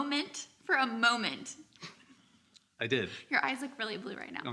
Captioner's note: chuckles